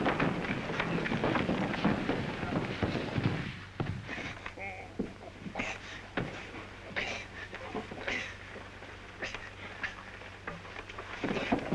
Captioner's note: scuffling